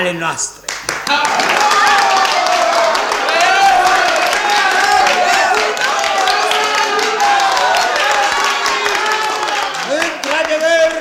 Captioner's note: applause